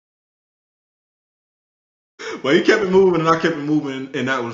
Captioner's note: laughs